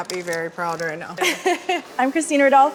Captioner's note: laughing